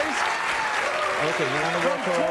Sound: audience cheering and applauding

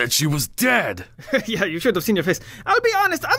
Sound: sniggers

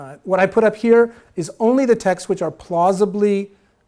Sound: none

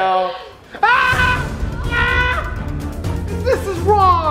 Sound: screaming

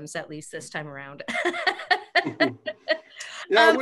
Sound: laughs

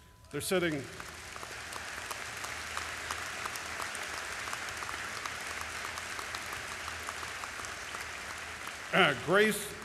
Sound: applause

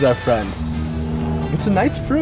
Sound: chewing

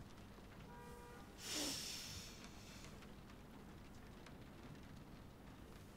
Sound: woman sniffs deeply

